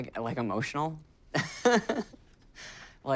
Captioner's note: laughing